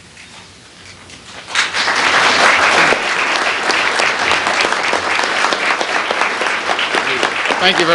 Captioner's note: applause